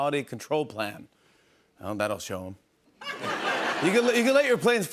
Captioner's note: laughter